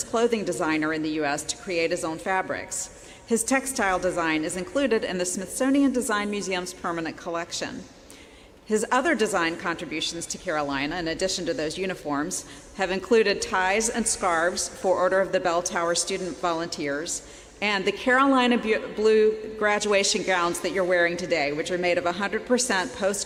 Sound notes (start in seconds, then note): none